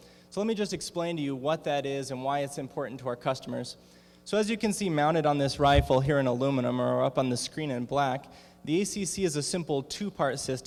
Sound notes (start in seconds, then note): none